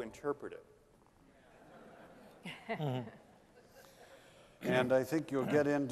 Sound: laughter

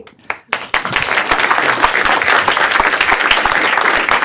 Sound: applause

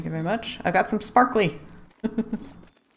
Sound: laughs

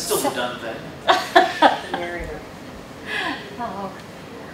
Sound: laughter

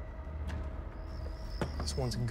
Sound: crickets chirping

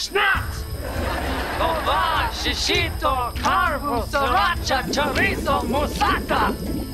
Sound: talking gibberish

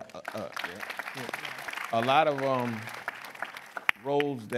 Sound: audience applause

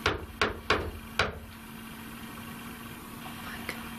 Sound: knocks on wall

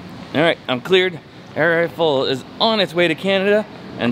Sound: none

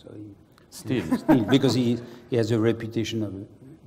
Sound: laugh

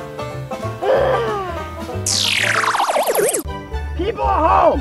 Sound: assistant groaning

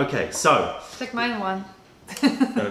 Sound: laughter

